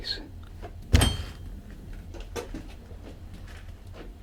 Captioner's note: metal clanking